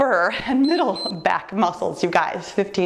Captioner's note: timer beeps